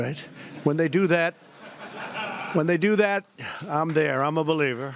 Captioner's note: laughter